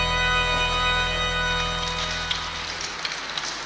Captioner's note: water burbling